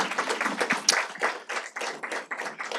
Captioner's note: audience applauding